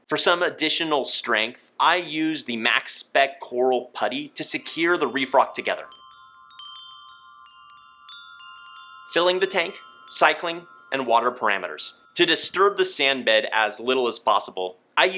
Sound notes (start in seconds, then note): 5.9 wind chimes chiming